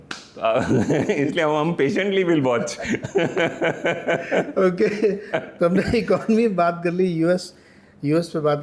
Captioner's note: laughter